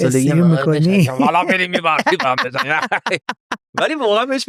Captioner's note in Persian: خنده